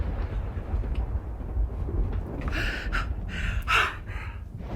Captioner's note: thunder rumbling